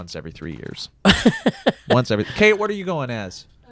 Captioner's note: laughs